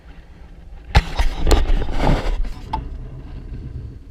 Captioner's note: GoPRO HINGE CREAKING